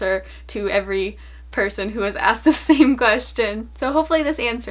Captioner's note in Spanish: ríe